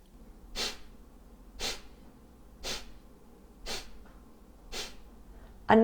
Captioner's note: exhaling